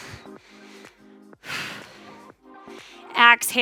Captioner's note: oxygen breathing